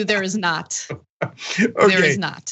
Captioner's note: laugh